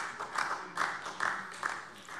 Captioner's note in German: Beifall SPD